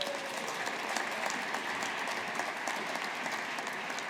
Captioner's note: audience applauding